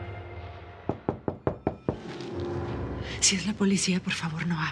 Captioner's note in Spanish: Toques en la puerta